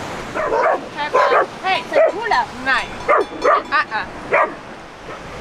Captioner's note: dog barking